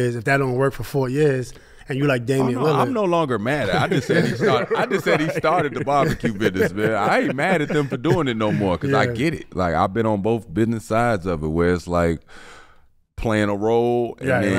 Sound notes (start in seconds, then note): 4.5 group laughs